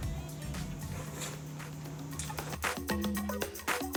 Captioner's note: liquid slurping; upbeat music